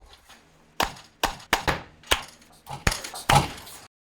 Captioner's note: slapping